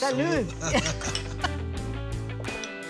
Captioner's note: giggling